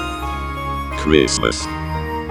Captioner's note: sentimental holiday music; robotic voice